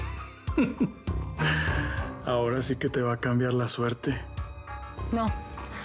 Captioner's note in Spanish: risas